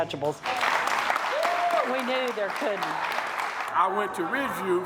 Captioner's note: audience applauds